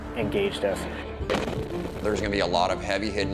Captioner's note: blast rumbles